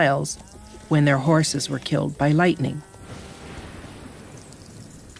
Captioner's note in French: coup de tonnerre